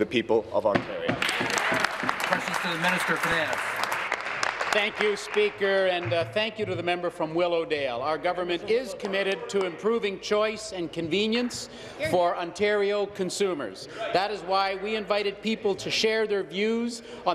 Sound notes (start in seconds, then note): 3.7 applause